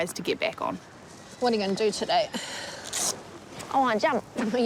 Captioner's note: sighs